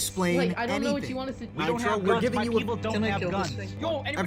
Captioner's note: everyone talks